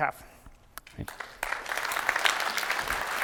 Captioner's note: applause